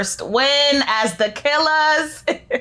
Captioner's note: laughing